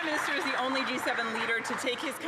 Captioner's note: speaking Alternate Language